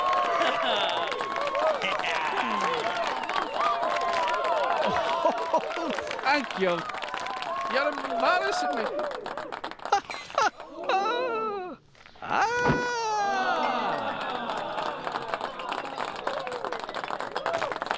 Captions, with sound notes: ( both chuckling ) Thank you. You're embarrassing me. ( Stevenson laughs ) Ahh! ( audience applauds )